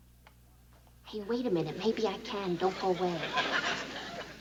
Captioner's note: whispering